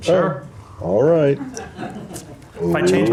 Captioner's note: laughter